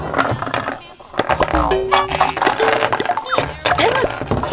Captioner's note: clattering